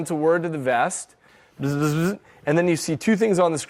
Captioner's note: imitates buzzing sound